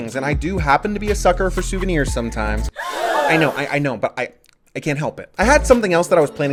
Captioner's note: gasp